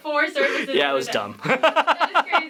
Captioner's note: laughter